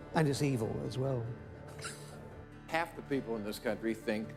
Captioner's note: chuckles